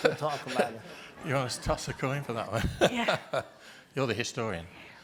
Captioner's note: laughing